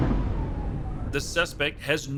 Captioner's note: tires pop